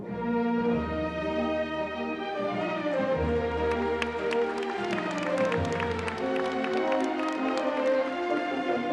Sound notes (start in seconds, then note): 4.4 audience applauds